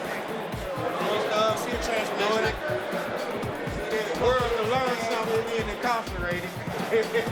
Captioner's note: laughs